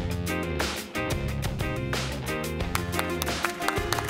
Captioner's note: applause